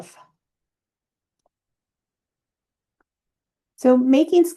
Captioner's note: silence